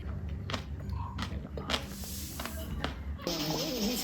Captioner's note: burdock chewing sound